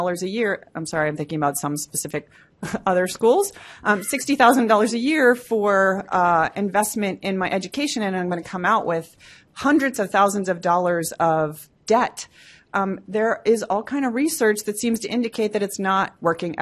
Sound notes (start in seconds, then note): 3.8 laughs